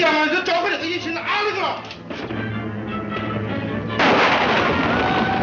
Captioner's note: speaks in foreign language